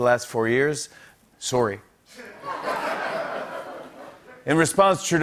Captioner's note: Canadian accent